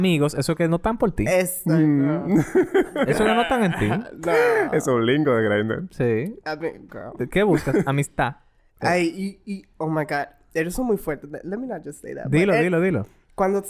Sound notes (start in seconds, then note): 4.5 laughs